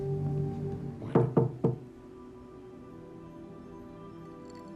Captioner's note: door knocks